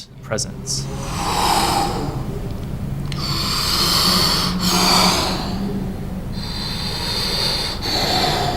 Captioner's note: breathing out and in